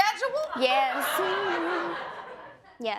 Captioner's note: audience laughing